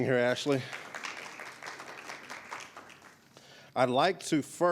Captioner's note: audience applauding